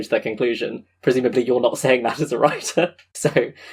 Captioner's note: laughing